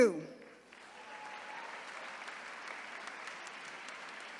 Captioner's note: attendees cheering